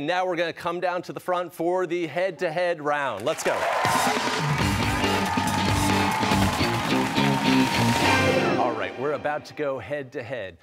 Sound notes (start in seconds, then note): 3.2 cheers and applause